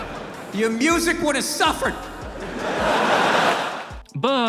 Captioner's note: laughter; laughter